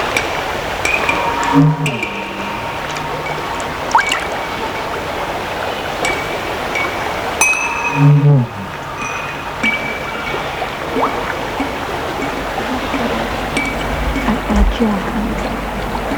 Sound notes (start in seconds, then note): 0.1 distroted noises, metallic clinking